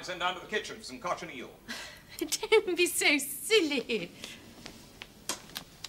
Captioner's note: amused sigh